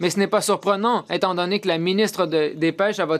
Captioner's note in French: voix de l'interprète